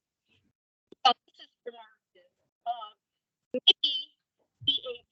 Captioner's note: speaking distantly